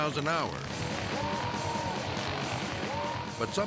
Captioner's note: mowers buzzing; dramatic music